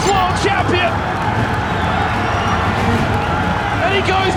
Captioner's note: crowd cheering